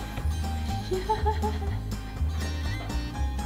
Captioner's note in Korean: 웃음